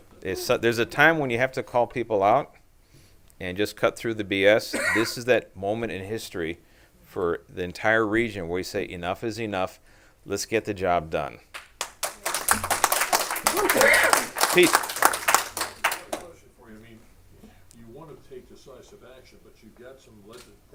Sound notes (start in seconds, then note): 11.5 clapping; 14.5 clapping continues